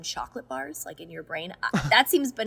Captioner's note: Hyram laughs